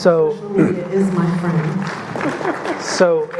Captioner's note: audience clapping